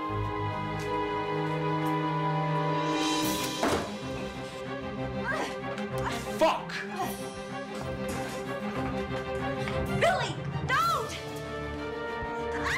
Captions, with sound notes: (foreboding music) (door thuds) (suspenseful music) Fuck! - Billy, don't!